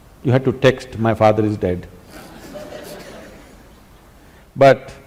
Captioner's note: laughter